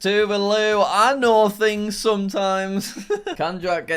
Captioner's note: laughing